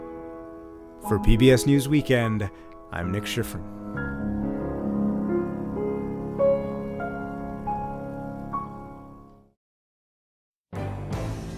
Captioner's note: voice-over